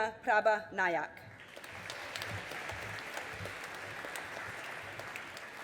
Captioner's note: audience applauding